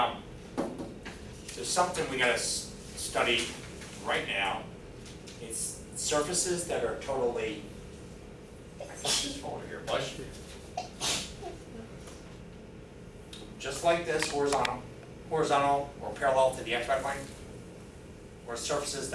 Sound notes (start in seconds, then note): 8.9 sneezing